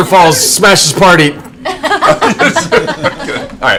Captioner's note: laughter